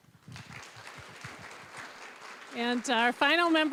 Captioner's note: applause